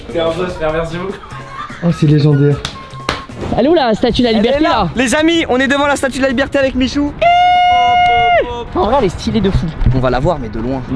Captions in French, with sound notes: - T’es un boss frère Merci beauc- *rire* - Oh c'est légendaire - Elle est où la statue de la Liberté ? - Elle est là Les amis, on est devant la statue de la Liberté avec Michou - En vrai, elle est stylée de fou - On va la voir, mais de loin